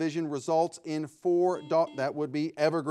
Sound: buzzer ringing

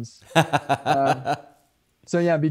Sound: laughs

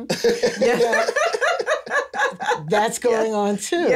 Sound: lauhter

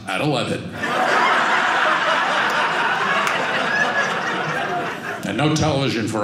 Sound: audience laughing

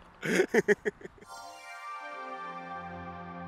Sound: laughter

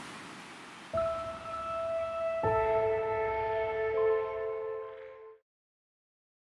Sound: sound of water and waves; bright jingle tone

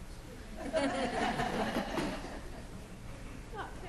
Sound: laughs

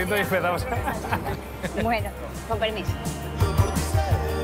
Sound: laugh

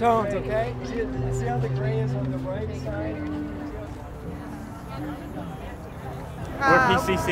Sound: background ambience and discussions about painting

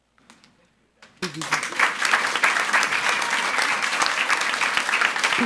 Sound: audience applauds

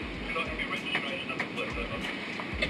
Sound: man On Radio

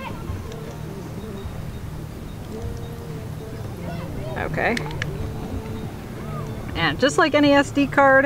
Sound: clicking

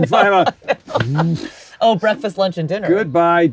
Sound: laughs

